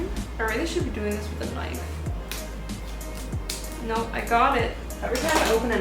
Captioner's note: pop